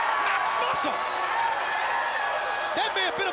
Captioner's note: crowd cheering